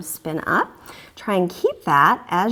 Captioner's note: deep breathing sounds